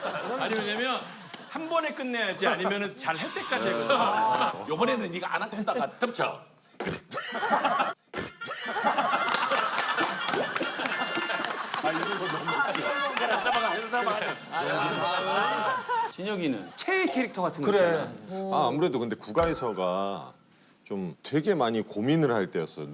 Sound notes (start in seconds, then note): 6.8 spit